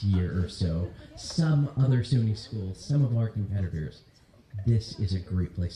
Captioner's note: laughter